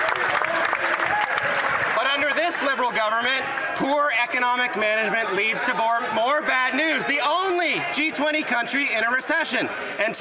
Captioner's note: some Applause